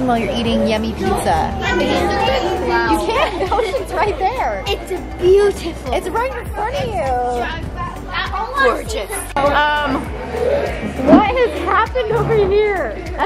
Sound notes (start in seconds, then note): 1.8 children chattering